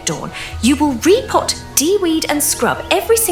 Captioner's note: deep breath